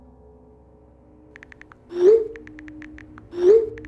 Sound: texting

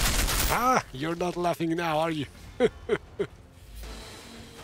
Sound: laughs

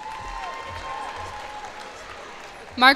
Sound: cheers and applause

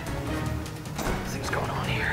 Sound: door closing

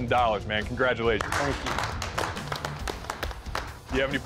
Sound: applause

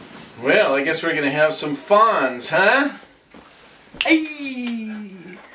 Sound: the kid's voice, heyeee and fingers snap

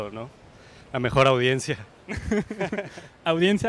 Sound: loughs

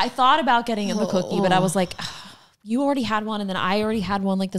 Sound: sighs

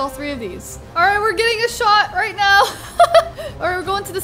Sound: laughs

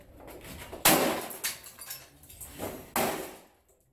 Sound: whacking

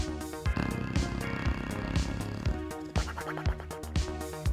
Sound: dog snoring

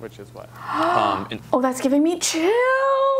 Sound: gasps

